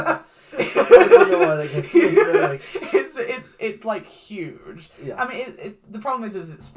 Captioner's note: laughs